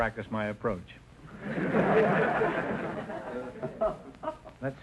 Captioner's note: audience laughter